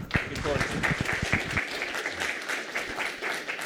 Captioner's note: applause